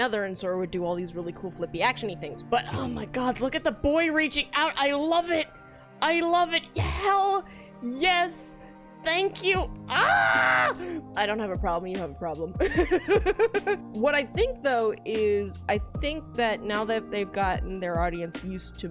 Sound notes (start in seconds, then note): 12.6 laughs